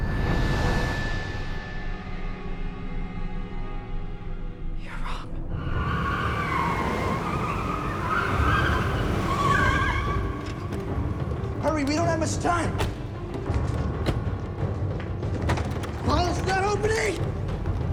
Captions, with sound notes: (ominous music intensifies) - You're wrong. (car tires screeching) - Hurry, we don't have much time. (car door thuds) (intense dramatic music) (door latch jangling) Paul, it's not opening!